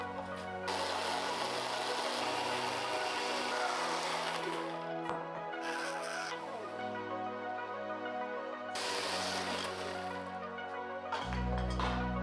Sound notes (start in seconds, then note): 0.0 drill whirring; 6.6 upbeat music; 8.7 drill whirring; 11.8 upbeat music